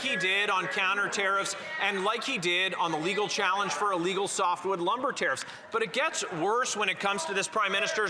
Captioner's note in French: voix de l'interprète